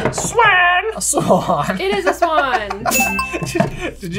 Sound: laughing

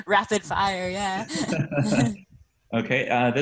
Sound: presenters laugh loudly

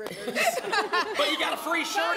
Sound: laughter

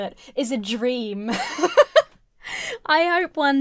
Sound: giggling

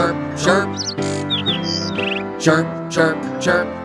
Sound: bird chirping

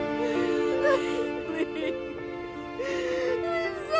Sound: Diane crying

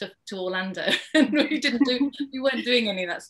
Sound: laughs

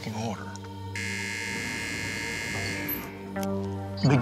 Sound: buzzer

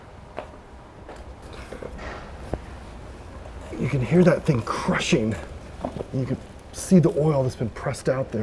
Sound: crushing noise

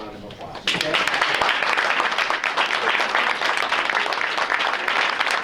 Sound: audience applauding

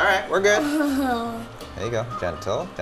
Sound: laughs

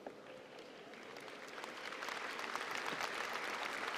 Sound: applause

